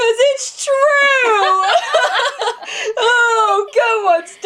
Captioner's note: laughs